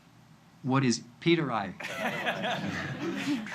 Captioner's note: laughter